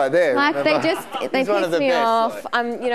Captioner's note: audience laughing